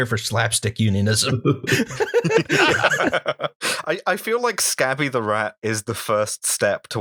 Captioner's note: laughter